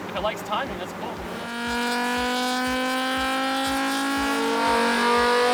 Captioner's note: car engine roaring